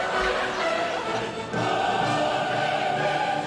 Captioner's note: audience laughs